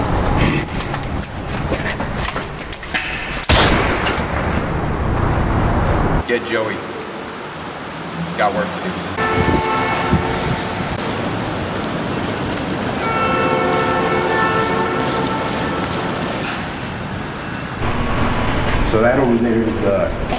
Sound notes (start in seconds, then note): 0.0 rustling noises; 3.4 gunshot; 9.2 car beeping; 10.4 water sounds; 12.8 car noises